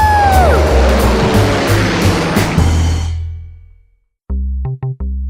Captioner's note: plane engine whirring; slow rock music